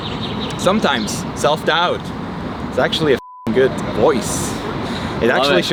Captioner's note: beep